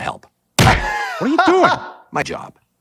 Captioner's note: laughing